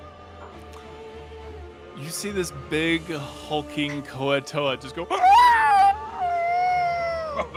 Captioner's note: yells